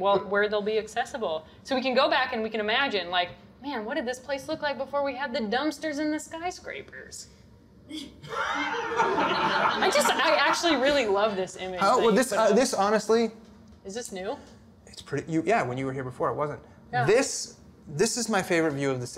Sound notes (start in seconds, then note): 8.3 audience laughter